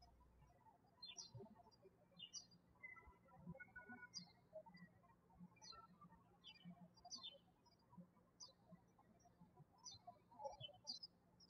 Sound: birds chirping

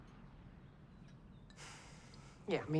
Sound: sighs

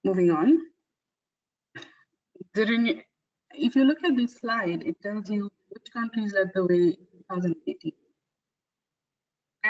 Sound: audio static

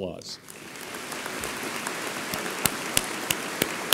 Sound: audience applauds

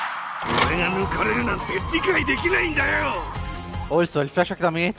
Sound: in Japanese

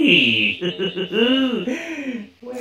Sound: chuckling

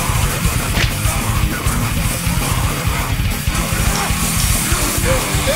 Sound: fighting sound effects

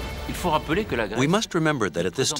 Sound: professor speaking in foreign language

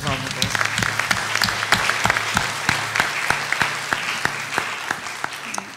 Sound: applause

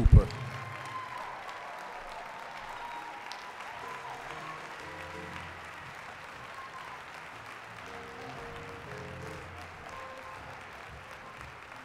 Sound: applause, cheering; applause

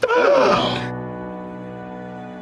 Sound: gasps

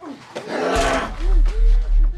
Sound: bones crack

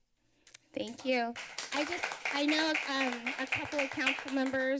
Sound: applause

